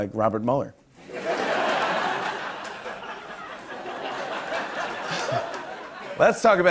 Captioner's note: laughter